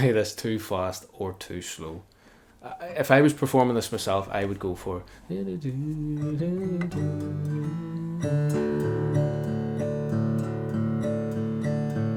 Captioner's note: humming